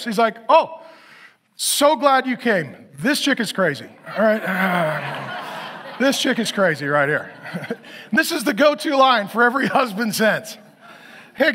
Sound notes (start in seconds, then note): 4.1 audience laughs